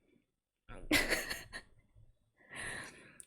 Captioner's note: laughs